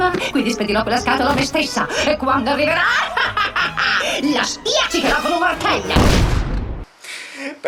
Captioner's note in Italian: risata malvagia